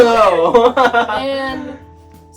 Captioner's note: laughs